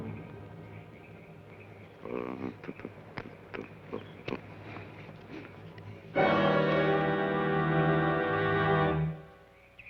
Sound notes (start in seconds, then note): 2.2 Joshua hums melodically